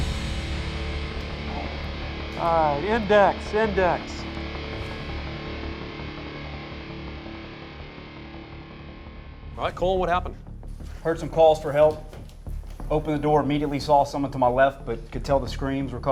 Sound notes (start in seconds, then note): 2.5 voiceover